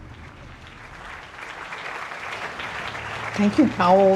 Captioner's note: participantes aplaudindo